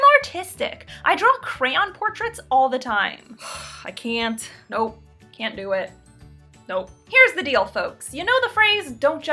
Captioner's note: sighs